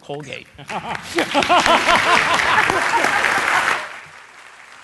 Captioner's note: laughter